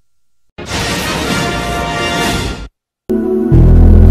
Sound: electricity zapping as rousing fanfare plays

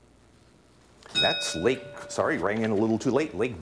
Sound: ding

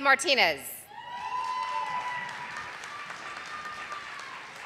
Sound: audience applauding

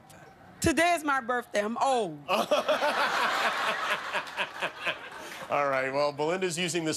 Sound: laughter

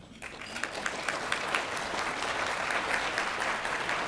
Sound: applause

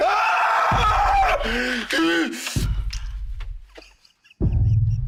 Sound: screaming

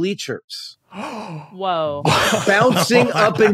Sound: gasps

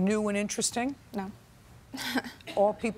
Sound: chuckles

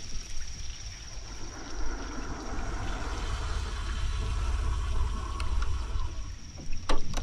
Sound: vehicle approaching

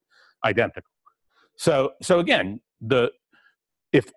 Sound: pause

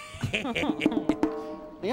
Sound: both chuckle

